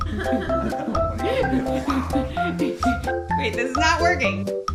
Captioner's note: laughter